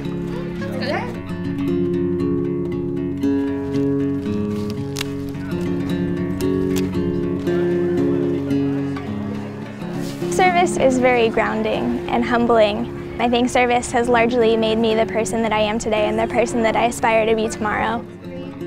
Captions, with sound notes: [LEAF SNAPPING] Service is very grounding and humbling. I think service has largely made me the person that I am today and the person that I aspire to be tomorrow.